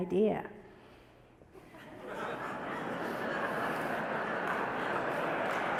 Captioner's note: audience laughter; audience applause